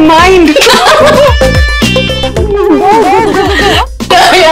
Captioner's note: Ananya and Vandy laughing